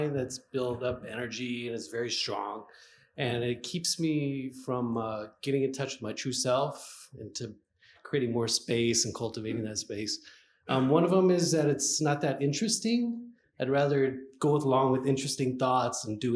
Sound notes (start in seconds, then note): none